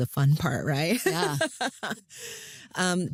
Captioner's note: laughs